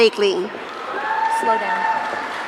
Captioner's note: audience cheering